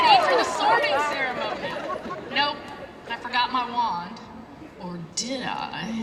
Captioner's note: laughter